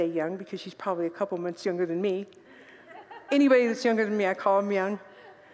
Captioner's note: congregants laugh